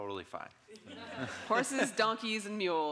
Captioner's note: audience laughing